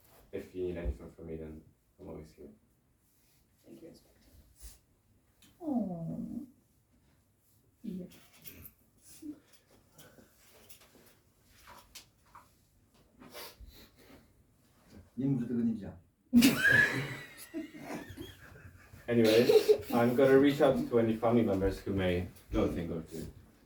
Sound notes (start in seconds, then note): 16.2 audience laughs